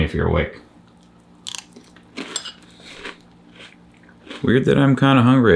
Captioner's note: cereal crunching